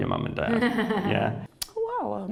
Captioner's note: Stella laughing